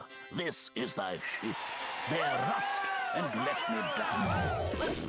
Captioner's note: crowd cheering